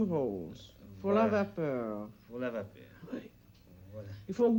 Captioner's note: both conversing in French